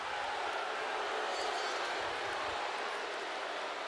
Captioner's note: crowd booing